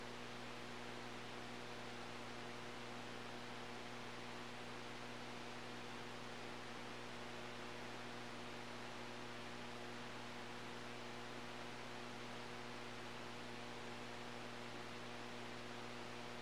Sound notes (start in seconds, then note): none